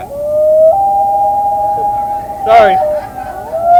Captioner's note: loon sounds